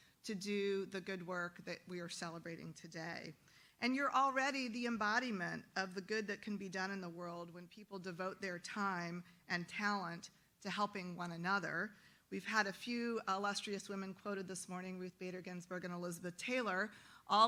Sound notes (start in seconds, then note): none